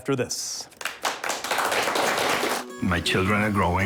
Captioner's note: audience applauds